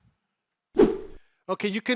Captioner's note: air swooshing